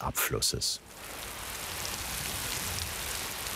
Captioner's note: patterling, rippling